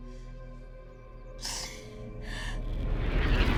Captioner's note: Mattie sobbing; nightmarish music